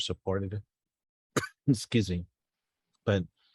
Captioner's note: coughs